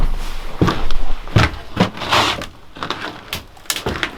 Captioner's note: footsteps falling